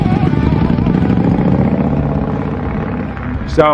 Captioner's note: engine revving up